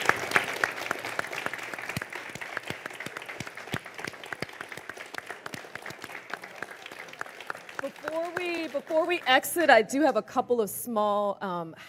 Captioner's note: crowd cheering